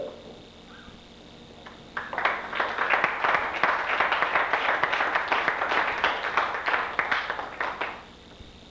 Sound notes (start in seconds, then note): 1.9 applause